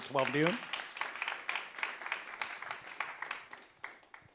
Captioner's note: audience claps